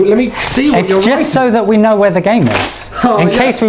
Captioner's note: ripping paper